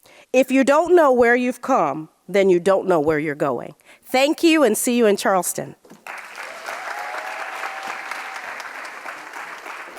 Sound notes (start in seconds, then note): 6.0 audience cheering